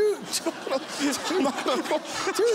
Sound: laughter

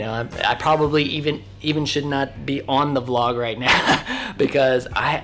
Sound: laughs

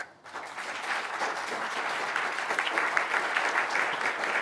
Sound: audience applauding

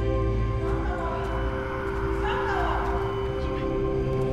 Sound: shouting

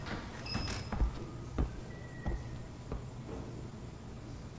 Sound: bell dings

